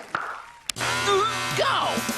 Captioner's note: dudley gulps